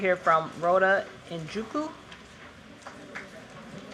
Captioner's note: applause